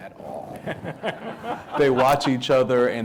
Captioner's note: audience laughing